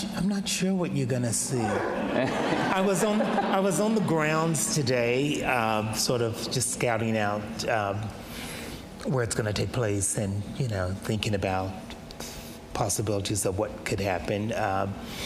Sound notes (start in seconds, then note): 1.6 audience laughs